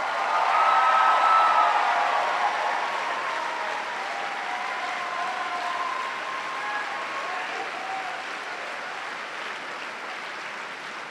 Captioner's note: cheers and applause